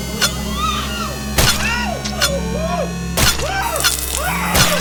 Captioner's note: Marita screaming